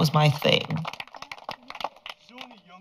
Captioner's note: applause